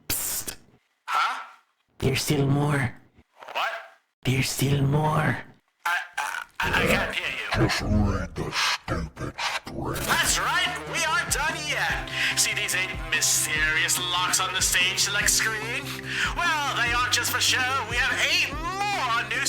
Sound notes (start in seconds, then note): 0.1 psst; 7.4 telly Grumbling